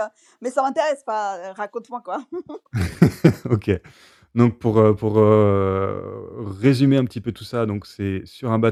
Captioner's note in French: rires